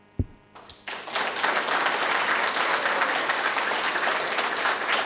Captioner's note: audience applauding